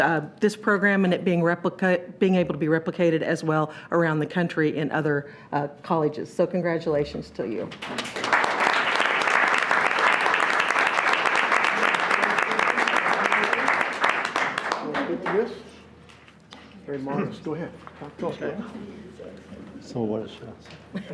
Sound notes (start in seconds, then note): 7.8 audience applauds; 13.2 group chatter; 18.1 speaking off mic